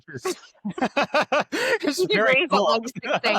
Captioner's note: both laugh